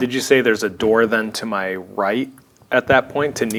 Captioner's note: none